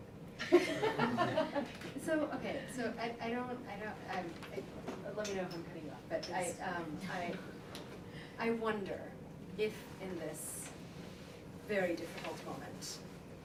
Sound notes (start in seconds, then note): 0.4 laughter